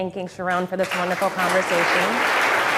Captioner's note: audience applause